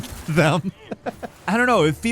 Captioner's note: chuckles